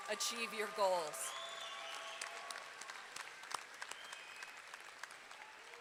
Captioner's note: audience clapping and cheering